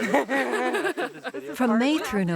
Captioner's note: laughing